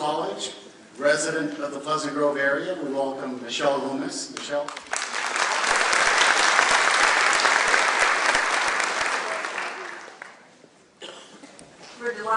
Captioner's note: clapping